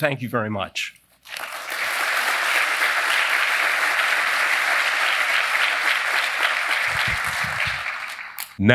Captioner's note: applause